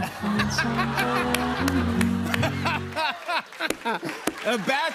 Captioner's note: laughter